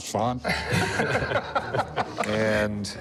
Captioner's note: laughter